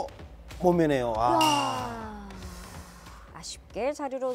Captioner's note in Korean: 일동 / 탄식